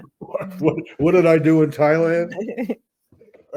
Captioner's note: laughs